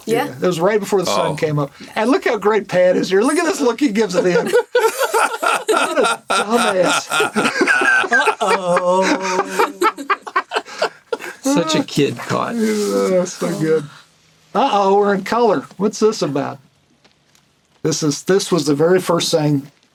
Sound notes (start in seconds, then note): 4.6 laughter; 7.7 laughter continues